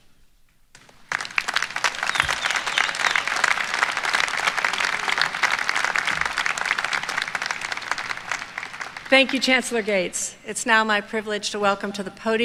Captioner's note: applause